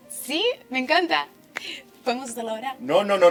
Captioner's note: clapping